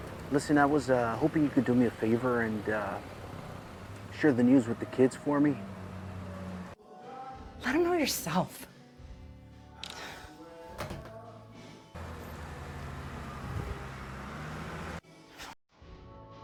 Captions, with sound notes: Listen, I was hoping you could do me a favor and uh, share the news with the kids for me? - Let 'em know yourself. (sighs) (heavy machinery humming)